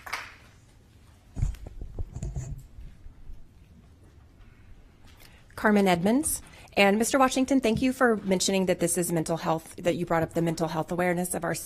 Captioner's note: applause